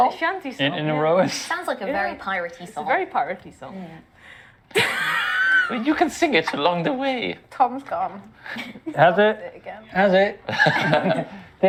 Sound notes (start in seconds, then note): 4.8 tire deflating laugh